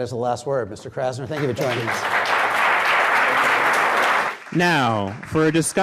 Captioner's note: audience applause